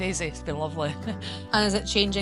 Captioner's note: laughs